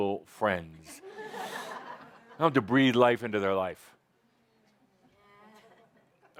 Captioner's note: laughter